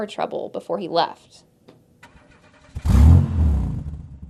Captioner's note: car engine starts; engine revves